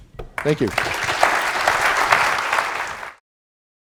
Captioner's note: applause